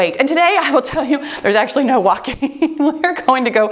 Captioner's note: laughing